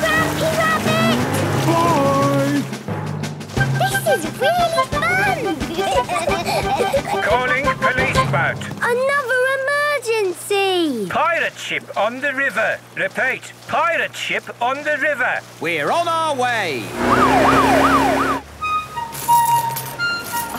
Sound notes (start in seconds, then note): 3.7 children giggling; 6.3 voice over radio; 16.9 siren wailing